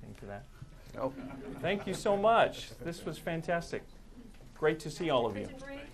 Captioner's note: laughter